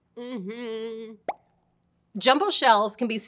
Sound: hums

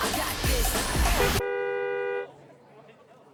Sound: music stops; horn honks

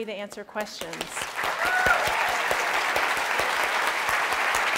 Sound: applause

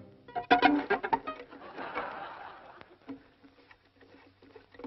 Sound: laughing

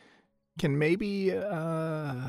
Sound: none

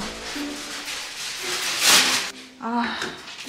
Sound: crumpling noises

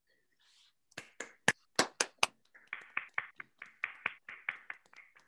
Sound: hands clapping

